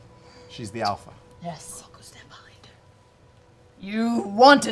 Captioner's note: whispering